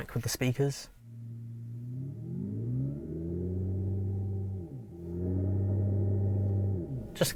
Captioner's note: car Revving